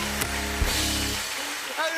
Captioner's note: cheers and applause